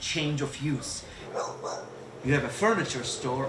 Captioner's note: dog barks